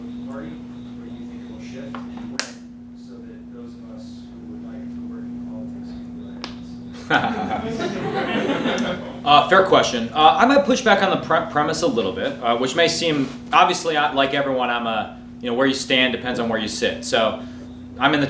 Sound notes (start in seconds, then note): 6.9 all laughing